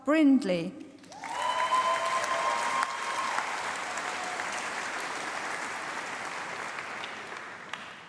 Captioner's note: applause